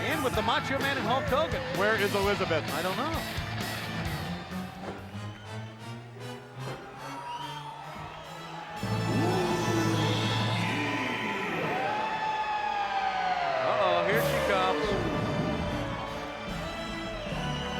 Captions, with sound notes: and with the Macho Man and Hulk Hogan. Where is Elizabeth? I don't know. (upbeat rock music) (uplifting fanfare music) (announcer growls) Uh oh, here she comes.